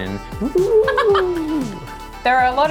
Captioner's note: laughing